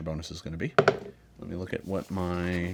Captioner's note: dice roll